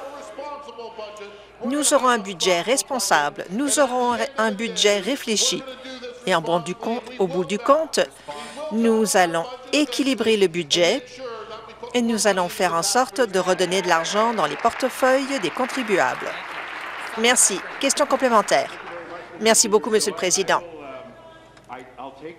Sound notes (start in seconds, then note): 18.6 applause